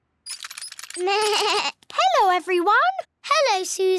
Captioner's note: bleats